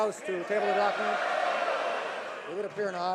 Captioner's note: some Applause